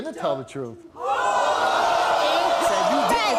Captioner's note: audience jeering